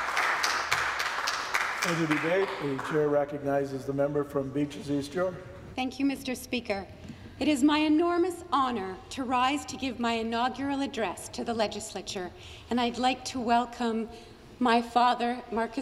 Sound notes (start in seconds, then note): 3.4 some Applause